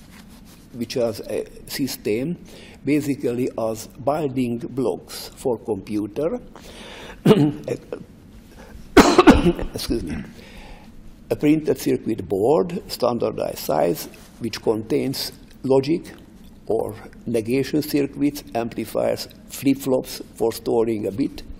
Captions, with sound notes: which was a system basically as binding blocks for the computer. [Coughs] Excuse me. A printer circuit board, standardized size, which contains logic or negation circuits, amplifiers, flip-flops for storing a bit.